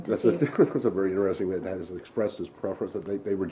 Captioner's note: laughter